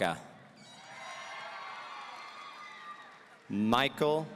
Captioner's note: audience cheering